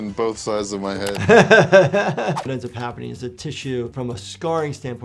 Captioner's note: chuckling